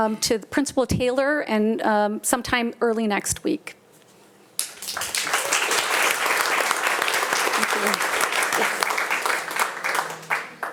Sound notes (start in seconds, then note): 4.6 audience applauding